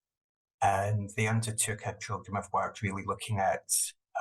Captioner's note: murmurs